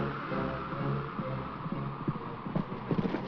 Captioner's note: wind howls